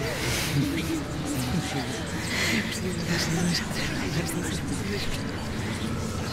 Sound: ghostly whispering; suspenseful music

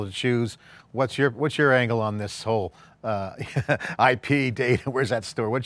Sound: laughs

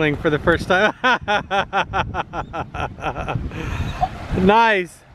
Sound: laughs

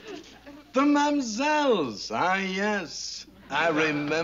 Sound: french accent

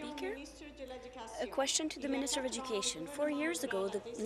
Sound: speaking in French

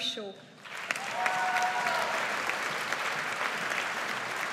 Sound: audience applauds

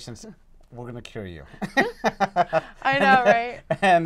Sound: laugh

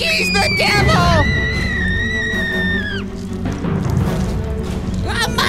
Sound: screaming

